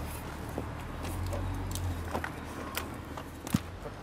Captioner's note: quiet traffic noise in the background